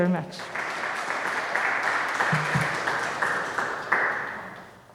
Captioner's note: audience applauding